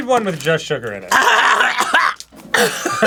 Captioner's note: combined throat clearing and coughing; winded cough